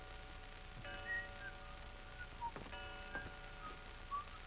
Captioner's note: Albert whistling